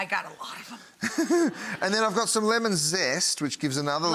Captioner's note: chuckling